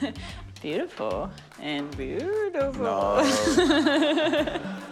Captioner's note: laughs; laughs